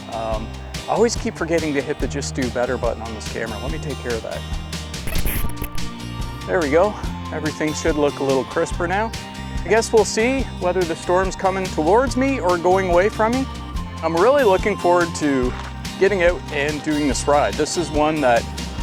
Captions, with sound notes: Um, I always keep forgetting to hit the "Just Do Better" button on this camera. Let me take care of that. [video glitches] There we go. Everything should look a little crisper now. I guess we'll see whether the storm's coming towards me or going away from me. I'm really looking forward to getting out and doing this ride. This is one that